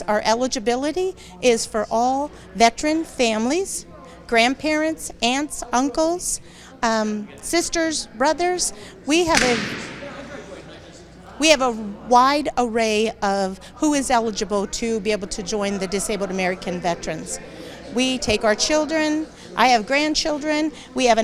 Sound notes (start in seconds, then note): 9.3 object thuds; 10.9 attendees chattering